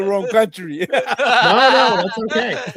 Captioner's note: laughter